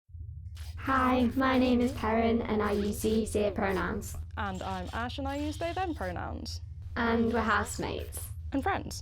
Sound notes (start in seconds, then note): 0.0 Peren's voice sounds synthetic and xir movements make whirring sounds; 4.7 Ash's voice sounds organic